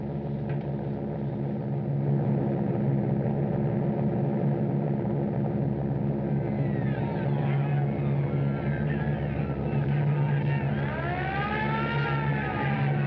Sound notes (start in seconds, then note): 6.2 screaming, Shouting; 10.5 air Raid Siren Blaring